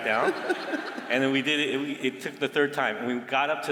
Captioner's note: laughter